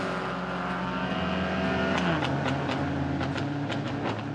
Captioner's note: engine splutters